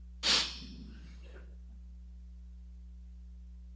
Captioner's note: sniffing